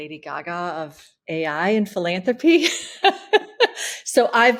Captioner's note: laughs